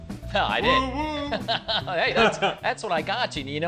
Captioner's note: laughing